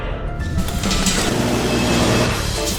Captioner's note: ba-dum; deafening storm of lead